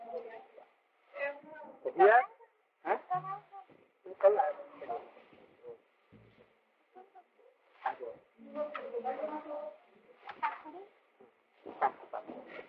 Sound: Hindi

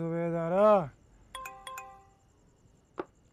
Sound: beeps

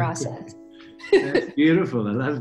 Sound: chuckles

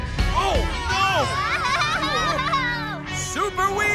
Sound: screaming

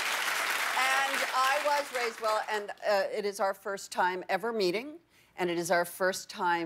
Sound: applause

